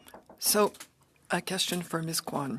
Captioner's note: speaking French